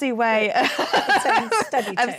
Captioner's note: laughing